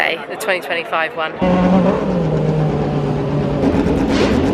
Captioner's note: car engines rev